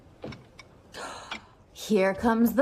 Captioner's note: gasps